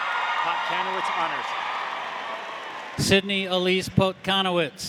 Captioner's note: audience applauding; audience cheering